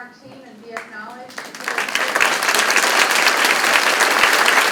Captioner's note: crowd claps